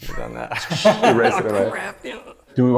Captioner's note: laughter